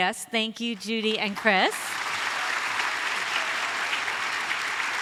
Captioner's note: audience applauds